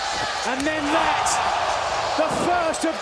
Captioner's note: crowd gasping